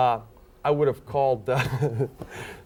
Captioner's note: laughing